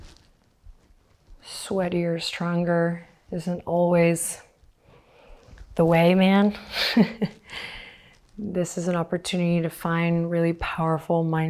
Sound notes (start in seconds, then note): 6.7 chuckles